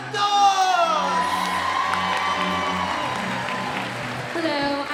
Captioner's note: audience cheering and applauding